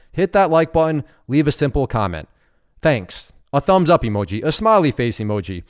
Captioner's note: none